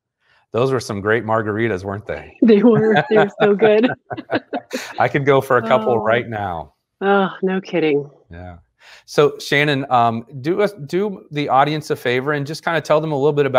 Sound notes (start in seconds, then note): 2.6 chuckles